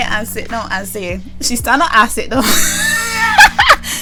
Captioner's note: a nasty cackle